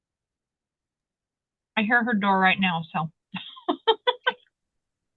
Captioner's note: laughing